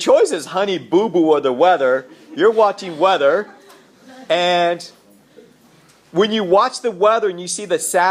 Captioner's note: laughter